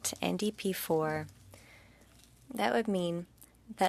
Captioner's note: speaking French